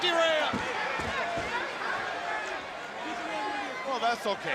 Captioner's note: crowd chatter